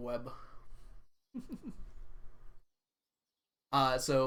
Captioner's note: chuckles